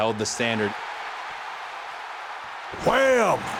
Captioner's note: audience cheering